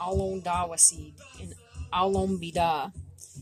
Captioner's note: speaking Abenaki